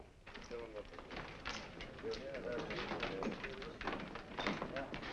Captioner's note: patrons murmuring